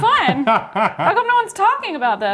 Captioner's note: laughs